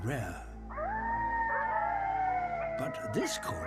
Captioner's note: all howling